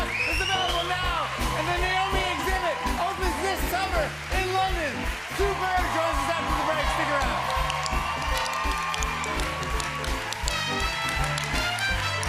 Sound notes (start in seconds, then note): 8.0 cheers and applause